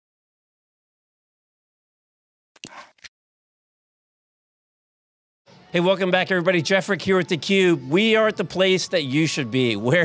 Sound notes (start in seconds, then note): 3.1 screen switch sound